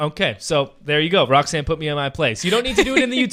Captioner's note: laughing